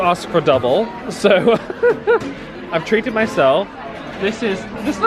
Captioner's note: laughing